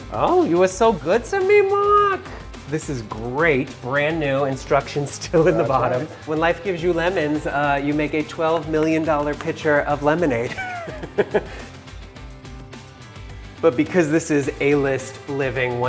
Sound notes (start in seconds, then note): 10.4 laughing